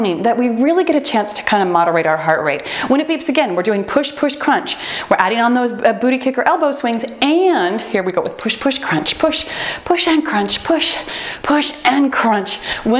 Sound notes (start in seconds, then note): 6.9 timer beeps